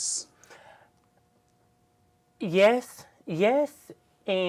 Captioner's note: pause